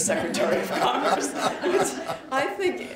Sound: laughter

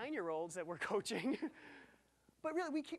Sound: laughing

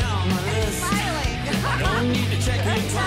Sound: laughs

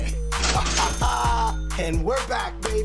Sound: cash register chimes; laughing

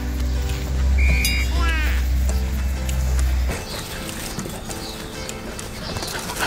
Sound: laugh

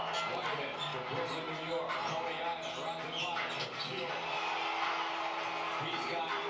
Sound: cheering

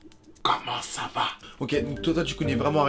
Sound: by whispering

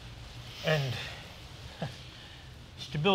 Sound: laughs

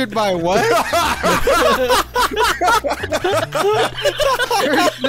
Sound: group laughing

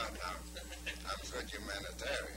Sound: laughter

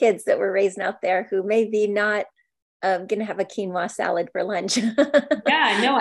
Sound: laughs

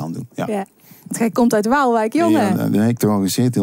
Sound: southern Dutch accent

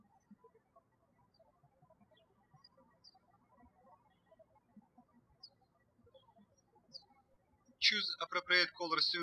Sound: birds chirping

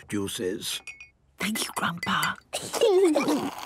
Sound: Granny whispering; children giggling

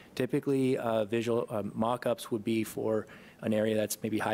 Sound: none

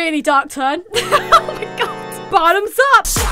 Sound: demonic Laughter

